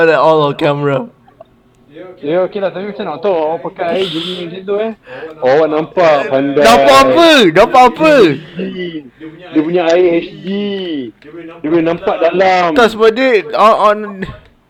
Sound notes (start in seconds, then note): 6.7 sarcastic